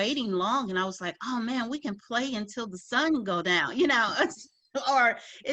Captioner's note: laughs